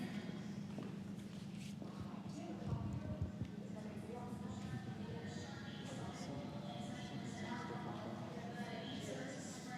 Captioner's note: office ambience